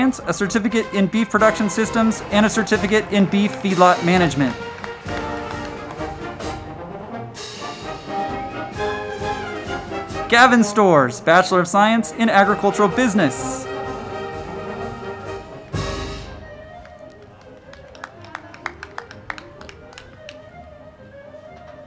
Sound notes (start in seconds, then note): 4.9 band music; 4.9 crowd clapping; 14.1 band music; 14.1 crowd clapping